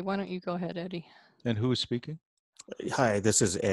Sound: on phone

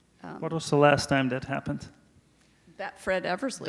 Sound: none

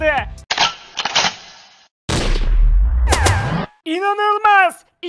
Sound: gunfire

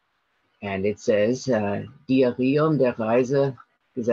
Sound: speaking in German

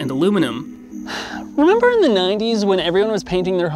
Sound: exhales sharply

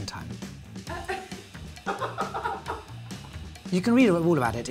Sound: upbeat music; laughing

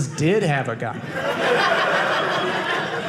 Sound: audience laughing

